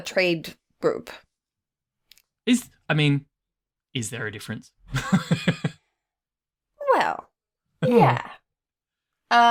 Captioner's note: laughs